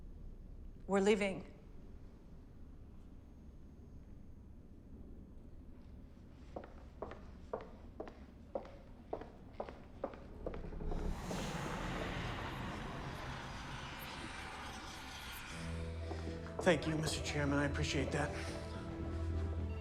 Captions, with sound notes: - We're leaving. (shoes clacking) (eerie music) - Thank you, Mr. Chairman. I appreciate that.